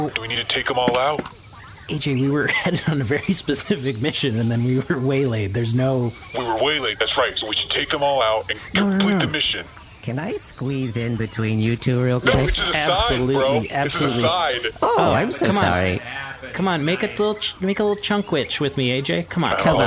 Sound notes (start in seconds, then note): 15.8 shouting